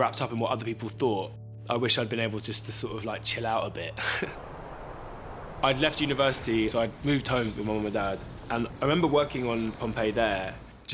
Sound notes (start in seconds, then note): 4.0 laughs